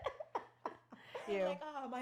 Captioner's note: laughing